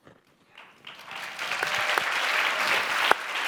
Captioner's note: clapping